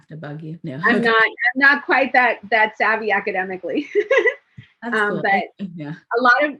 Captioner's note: laughs